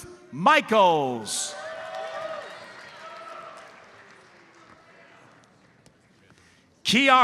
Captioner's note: audience cheers and applauds